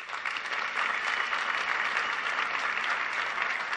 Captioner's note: applause